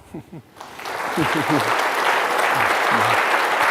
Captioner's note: clapping